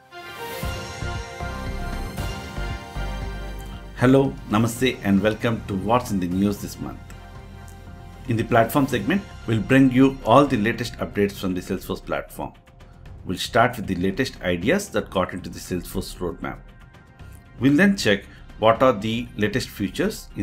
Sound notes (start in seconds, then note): 0.3 upbeat music; 4.2 speaking in foreign language